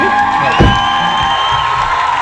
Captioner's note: cheers